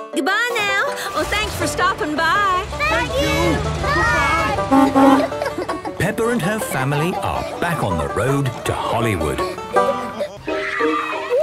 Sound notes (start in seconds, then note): 5.3 honking